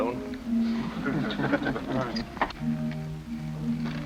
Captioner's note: laughter